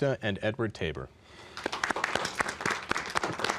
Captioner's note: applause